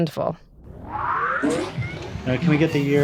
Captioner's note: machine revs up